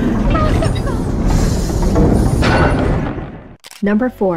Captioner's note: engine sound continues